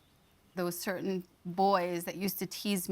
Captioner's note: speaking English